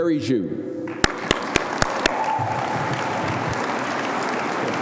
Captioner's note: audience applauding